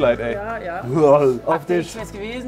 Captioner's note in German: Ekelgeräusch